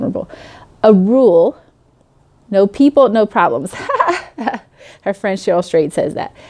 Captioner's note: laughing